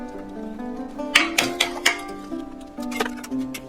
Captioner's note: whack, whack whack whack